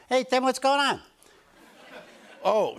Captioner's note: laughter